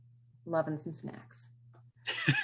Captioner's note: laughs